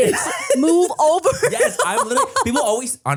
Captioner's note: laughs